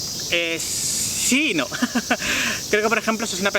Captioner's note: laughing